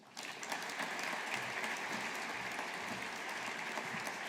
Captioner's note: audience applauding